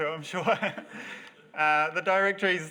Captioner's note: audience laugh